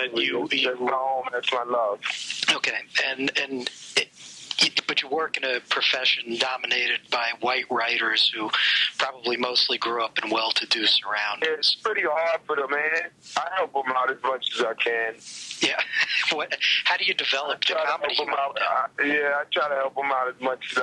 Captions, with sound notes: - That's my home, that's my love. - Okay, and, but you work in a profession dominated by white writers who probably mostly grew up in well-to-do surroundings. - It's pretty hard for the man; I help 'em out as much as I can. - Yeah, (laughs) how do you develop the comedy-- - I try to help 'em out, yeah, I try to help 'em out as much as I can.